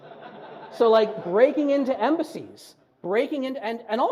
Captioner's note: audience laughs